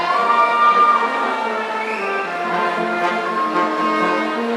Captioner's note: audience cheering